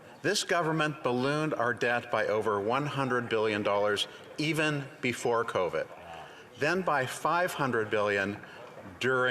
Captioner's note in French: voix de l'interprète